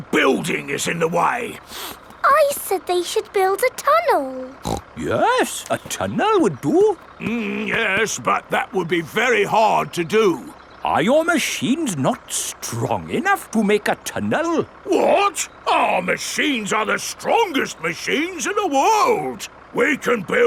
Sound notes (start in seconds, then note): 1.6 sniffs; 4.4 snorts